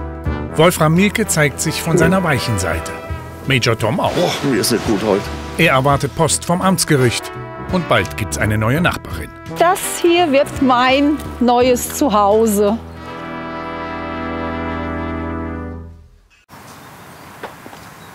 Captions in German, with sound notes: Wolfram Mielke zeigt sich von seiner weichen Seite. Major Tom auch. - Boah, mir ist nicht gut heute. Er erwartet Post vom Amtsgericht. Und bald gibt's eine neue Nachbarin. Das hier wird mein neues Zuhause. (Behäbige Musik) (Vogelzwitschern)